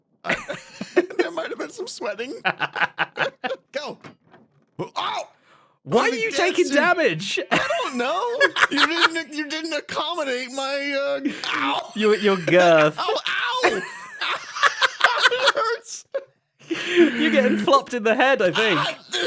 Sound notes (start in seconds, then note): 0.2 laughs; 2.4 BOTH laugh; 8.7 laughs; 14.0 BOTH laugh